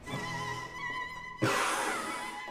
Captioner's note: deep Inhale